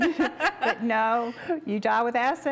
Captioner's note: laugh